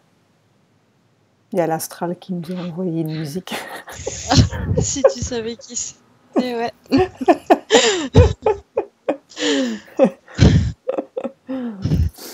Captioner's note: laughs